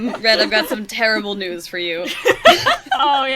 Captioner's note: laughs